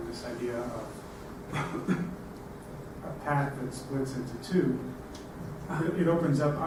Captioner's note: cough